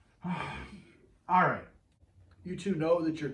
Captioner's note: sighs